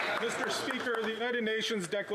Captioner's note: some Applause